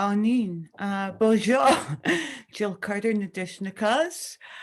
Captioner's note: speaking Indigenous Language; speaking French; speaking Indigenous Language